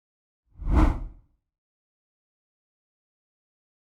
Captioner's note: screen whooshing